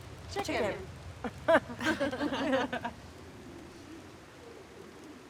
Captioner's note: laughing